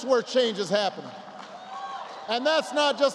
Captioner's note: applause